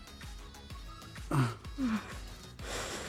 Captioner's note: both moaning